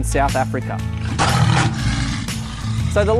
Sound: lion roars

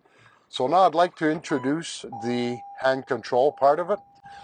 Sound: car dings

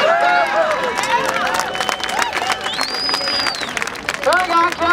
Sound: applause

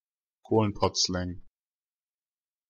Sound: fast Pronunciation

